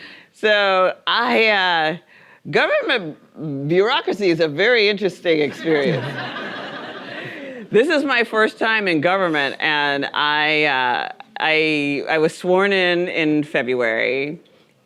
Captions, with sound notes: Government bureaucracy is a very interesting experience. (audience laughing) This is my first time in government and I was sworn in in February,